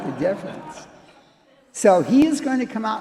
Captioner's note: audience chuckles